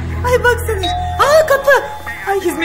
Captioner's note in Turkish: Zil sesi